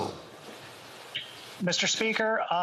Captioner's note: speaking French